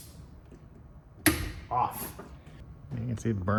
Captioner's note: swich clicks